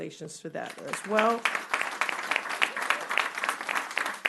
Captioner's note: applause